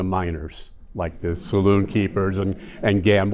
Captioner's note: audience chuckling